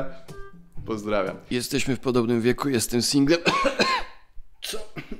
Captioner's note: cough cough